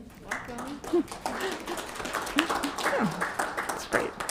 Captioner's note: applause